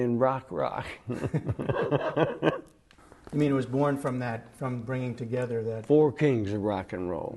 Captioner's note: laughter